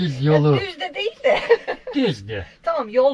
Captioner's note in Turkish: kahkaha